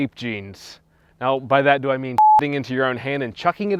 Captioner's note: beep